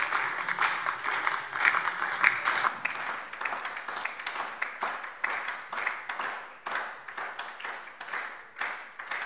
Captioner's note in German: Beifall SPD und DIE LINKE